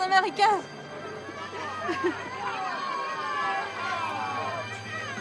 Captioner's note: civilians shouting